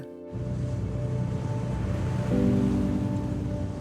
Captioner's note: boat engine revving; gentle music